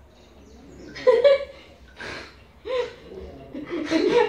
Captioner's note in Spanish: Risas; Risas mas fuertes